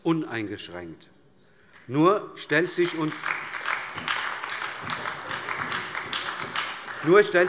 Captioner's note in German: Beifall bei der SPD